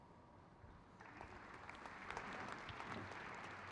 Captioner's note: crowd claps